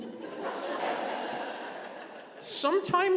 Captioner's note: congregation laughing